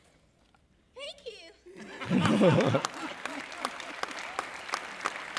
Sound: audience Applauds

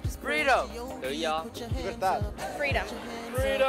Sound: speaking language other than English

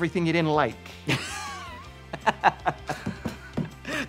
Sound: laughing

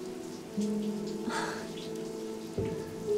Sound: sighs

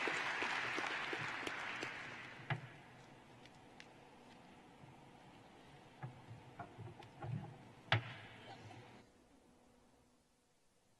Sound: cheering and applause

